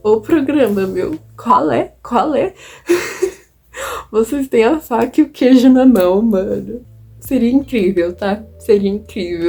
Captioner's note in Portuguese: risos